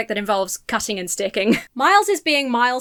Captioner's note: chuckles